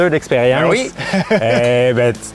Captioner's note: laughs